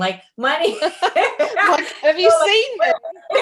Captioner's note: laughs